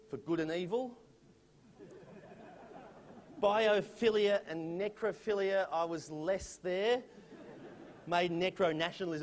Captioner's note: laughter